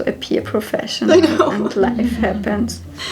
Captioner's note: laughs